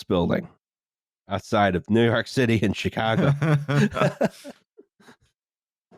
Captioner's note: laughter